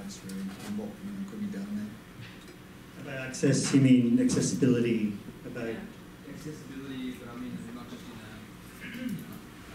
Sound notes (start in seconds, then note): 3.2 voiceover